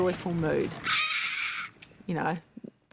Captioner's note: screeches